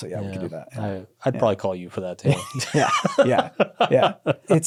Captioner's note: laughs